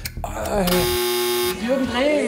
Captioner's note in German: Stöhnen